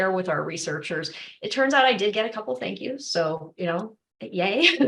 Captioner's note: laughter